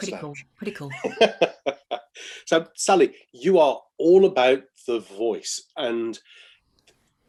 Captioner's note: laughs